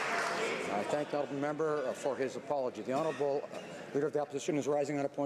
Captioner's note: applause